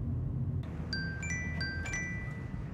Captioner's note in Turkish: Telefon çalıyor